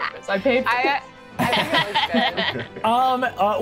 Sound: players laughing

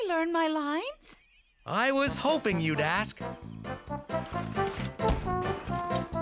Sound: clattering, wheels squeaking

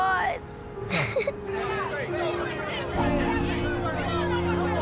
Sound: crowd ambience

